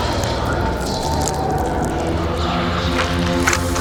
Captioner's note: distant whispering